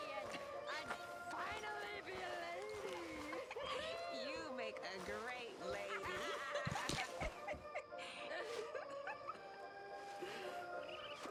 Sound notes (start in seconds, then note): 5.7 laughs with others